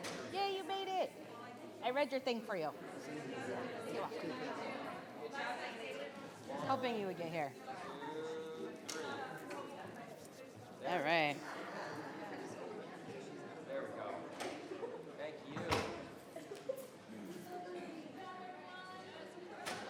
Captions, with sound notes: - Yay, you made it. I read your thing for you. - Thank you. - You're welcome. - I was hoping you would get here. - Two, three. - All right. (people chattering distantly)